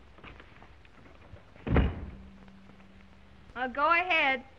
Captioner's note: door thuds